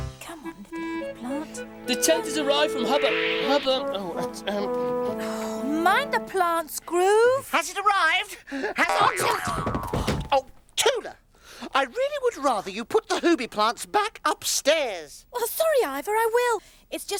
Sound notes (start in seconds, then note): 8.8 yelps; 9.4 thudding